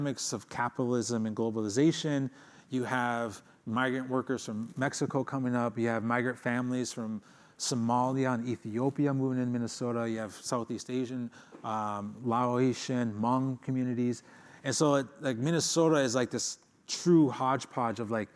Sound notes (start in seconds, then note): none